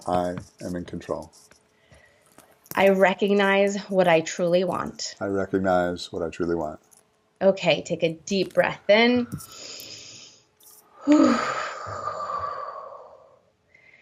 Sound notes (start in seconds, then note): 9.5 breathing deeply